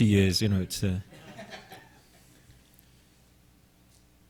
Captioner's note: audience laughing